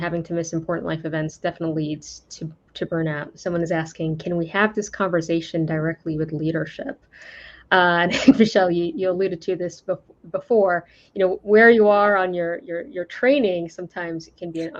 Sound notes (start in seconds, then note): 8.0 laughs